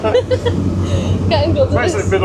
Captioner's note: laughing